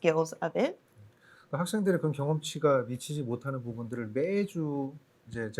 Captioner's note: speaking korean